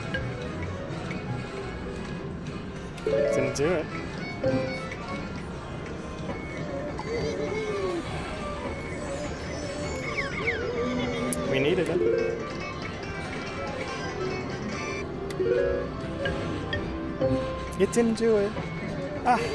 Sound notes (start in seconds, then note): 14.2 machine beeps; 19.3 sighs